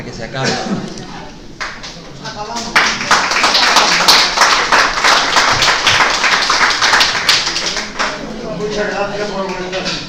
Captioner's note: applauses